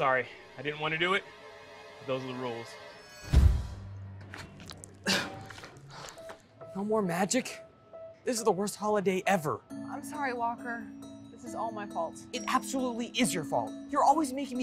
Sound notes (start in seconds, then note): 3.3 poof; 5.0 groan